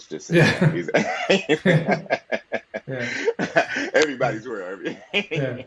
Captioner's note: laughs